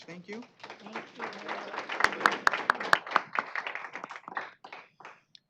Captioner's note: applause